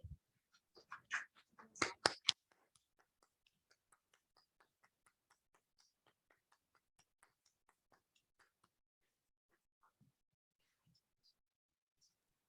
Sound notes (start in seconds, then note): 0.9 applauding